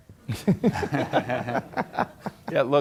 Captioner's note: laughter